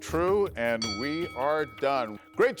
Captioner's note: bell rings